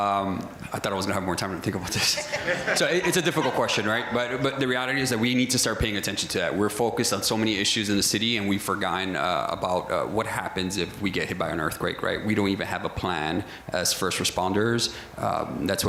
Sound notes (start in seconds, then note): 1.9 crowd laughter